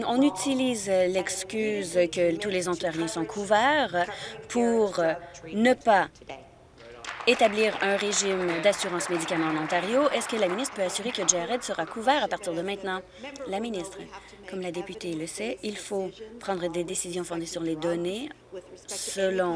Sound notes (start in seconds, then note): 12.1 applause